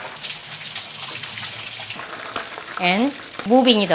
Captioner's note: water running